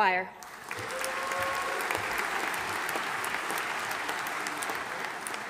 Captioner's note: audience applauding